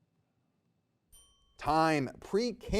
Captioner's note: bell rings